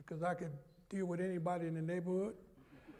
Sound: laughter

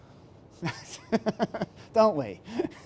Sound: laughs

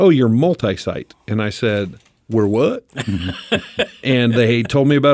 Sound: laughs

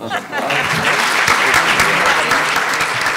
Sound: applause

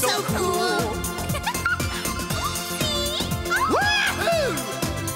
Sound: giggles

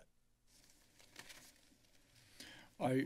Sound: papers flipping

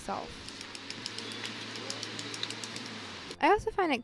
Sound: pen clicking

